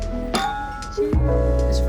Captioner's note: bottles clink together